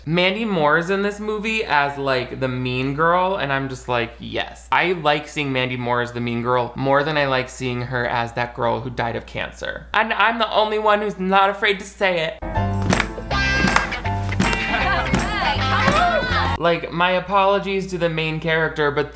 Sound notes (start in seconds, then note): 12.4 jazzy music; 15.0 girls clap and chatter